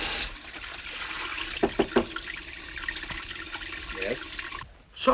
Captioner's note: knock on door